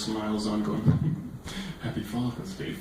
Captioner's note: chuckles